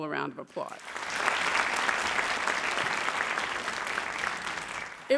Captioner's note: audience applauds